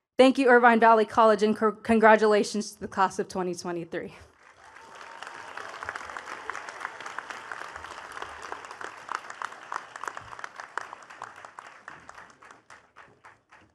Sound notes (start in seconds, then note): 4.3 attendees cheering and clapping